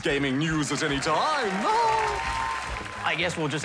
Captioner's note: cheering, applause; laughs